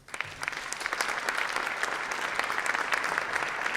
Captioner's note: audience applauds